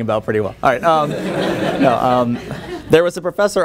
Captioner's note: laughter